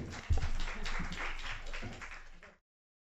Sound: applause

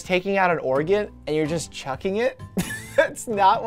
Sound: chuckles

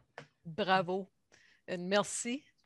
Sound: person speaking in French during this segment

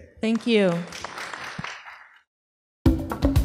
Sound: audience applauding; rhythmic percussion

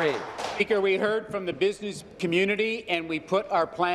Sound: some Applause

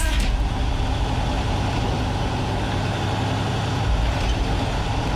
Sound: truck engine

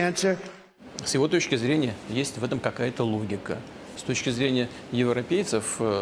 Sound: Putin speaking in Russian

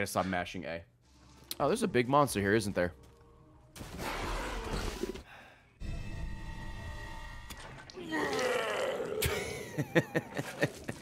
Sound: laughs

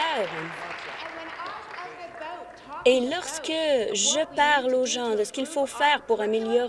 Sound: applause

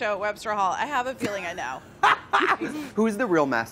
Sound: Trixie laughs

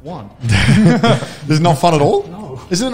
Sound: chuckles

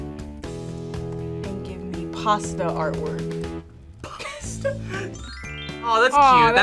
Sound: laughs

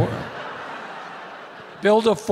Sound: audience laughing

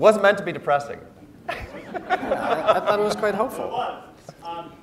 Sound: laugh

